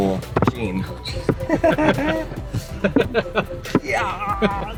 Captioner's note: laughing